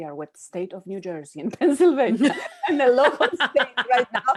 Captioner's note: laughs